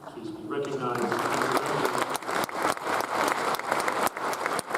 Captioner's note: audience applauds